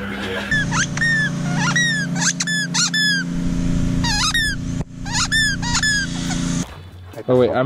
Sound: squeaking dog toy

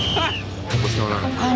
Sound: whistle blows

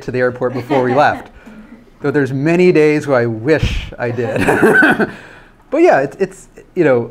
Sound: laughs

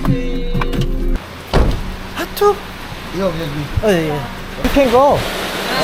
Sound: suddenly heavy rain

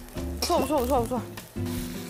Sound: cheering for herself

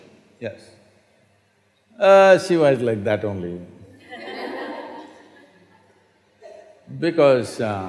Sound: laughter

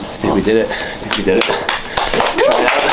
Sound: team applauds

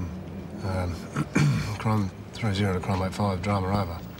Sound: clears throat

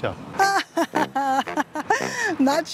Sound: laughs

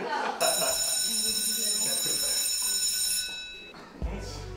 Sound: class bell rings

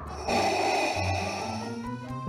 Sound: sound of Vader breathing

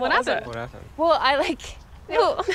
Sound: laughing

